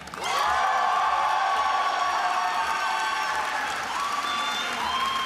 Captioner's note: attendees applauding and cheering